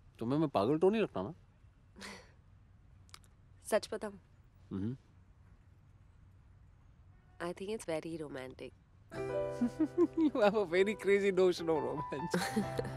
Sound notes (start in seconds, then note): 1.9 chuckles; 9.6 laughs